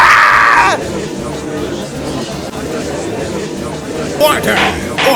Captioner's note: gallery chattering